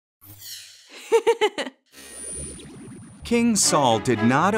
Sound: laughing

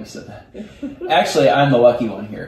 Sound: laughs

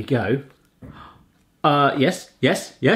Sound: gasps

